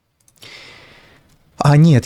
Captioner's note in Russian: вздыхает